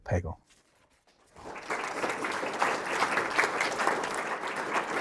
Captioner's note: audience applauding